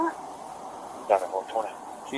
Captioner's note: radio chatter